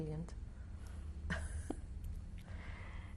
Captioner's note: laughs